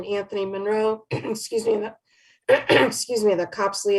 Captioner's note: clearing throat